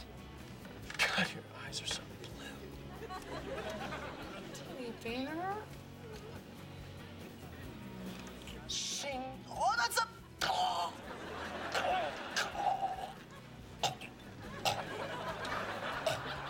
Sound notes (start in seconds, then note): 8.1 mimics sword unsheathing; 10.1 groans; 13.6 coughs